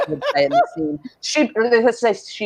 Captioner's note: laughs